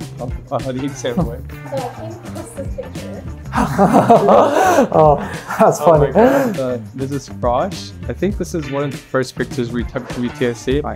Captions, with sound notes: talk about how the exam went. (laughter) Oh. That's funny. This is frosh. I think this is one of the first pictures we took at UTSC.